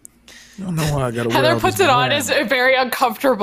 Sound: wolf mumbling

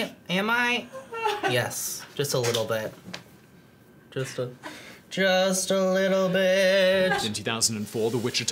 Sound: sing-song

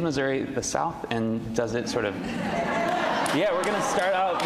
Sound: audience laughs

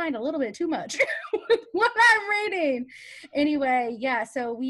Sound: laughs

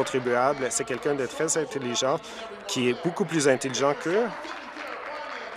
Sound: applause

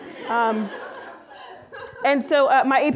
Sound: audience laughing

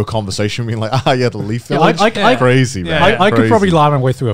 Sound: laughs

